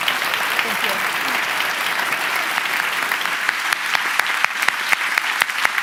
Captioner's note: applause